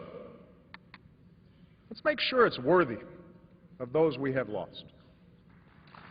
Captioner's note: applause